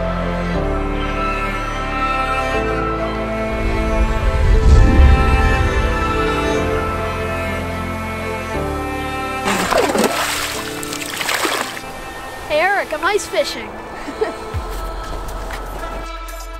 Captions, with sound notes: (water splashing) Hey, Eric, I'm ice-fishing. (laughing)